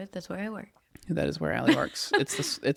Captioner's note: laughs